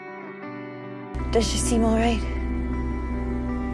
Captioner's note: voiceover